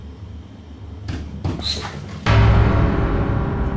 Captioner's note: knock